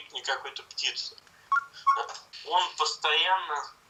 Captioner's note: chirping sound of the camera